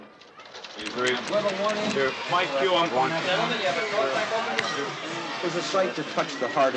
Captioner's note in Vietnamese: Tiếng nói chuyện